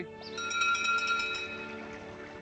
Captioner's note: door bell ringing